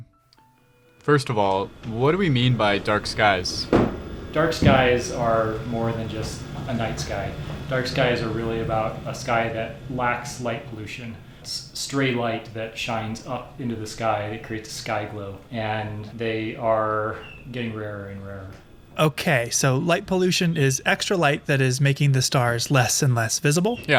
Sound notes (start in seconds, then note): 3.4 observatory machines humming in background